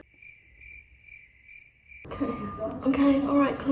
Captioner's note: crickets chirping